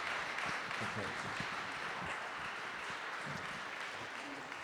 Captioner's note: audience applauding